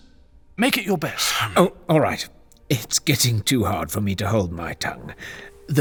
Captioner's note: exasperated